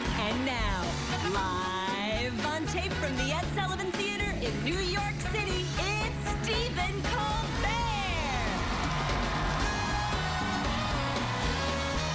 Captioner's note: cheers and applause